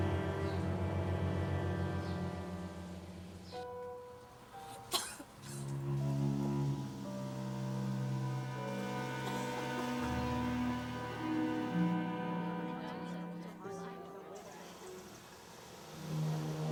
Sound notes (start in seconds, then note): 4.8 coughing; 12.9 people chattering